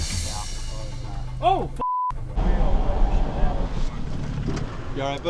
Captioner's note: beep